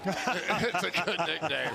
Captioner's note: laughter